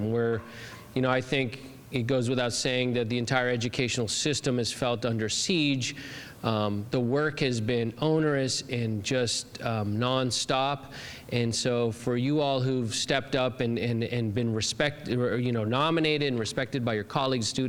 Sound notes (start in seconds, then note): none